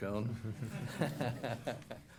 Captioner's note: laughter